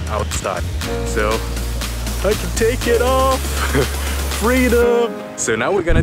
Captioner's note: chuckling